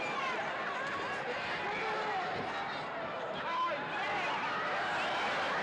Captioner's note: crowd chattering; crowd cheering